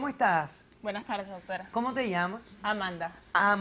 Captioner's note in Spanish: none